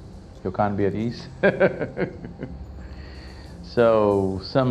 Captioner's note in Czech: směje se